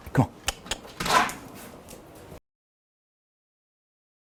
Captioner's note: clicks tongue